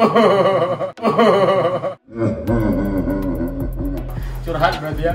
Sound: laughing

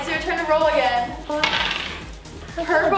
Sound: jangling

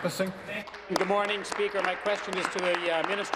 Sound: applause

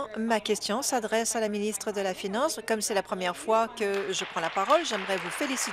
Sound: applause

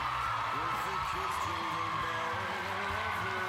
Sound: cheers and applause

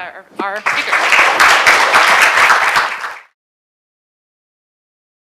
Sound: applause

